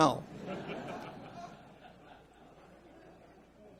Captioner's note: audience laughs